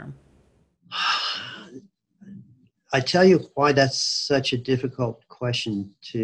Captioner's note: sighs